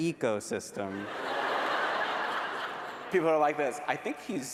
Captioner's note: laughter